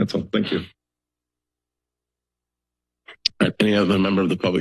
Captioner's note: silence